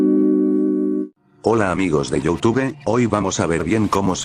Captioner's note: Loquendo Voice